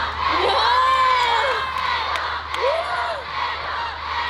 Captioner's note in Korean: 엄청난 앵콜 소리!!